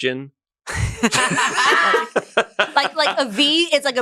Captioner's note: laugh